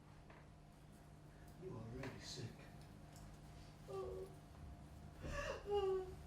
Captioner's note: crying